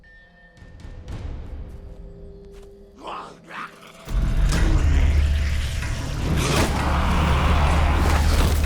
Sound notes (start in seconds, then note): 3.7 snarling